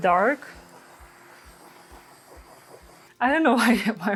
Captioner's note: torch hissing